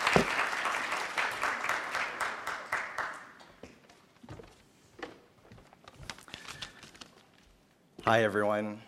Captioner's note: applause